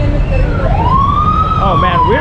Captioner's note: sirens